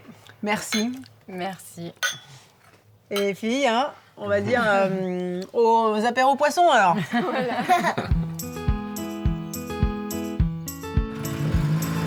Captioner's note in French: rires